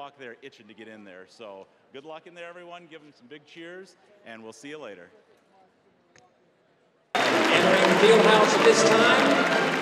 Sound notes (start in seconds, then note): 7.1 applause